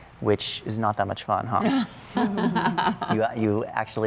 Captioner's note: laughter